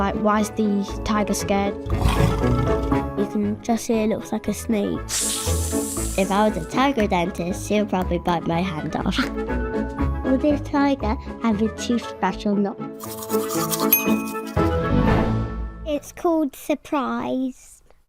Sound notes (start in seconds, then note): 1.8 tiger growling; 5.0 snake hissing; 13.9 ding